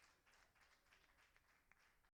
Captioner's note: applauding